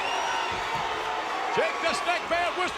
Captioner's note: crowd cheers